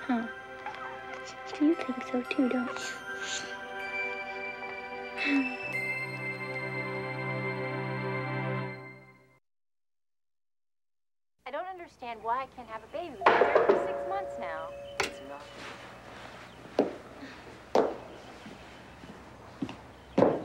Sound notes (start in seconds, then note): 5.7 laughs; 11.5 TV playing; 13.3 doorbell rings; 13.3 knock at door